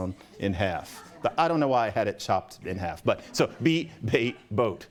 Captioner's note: laughter